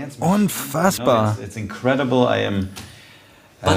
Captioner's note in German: Er spricht Englisch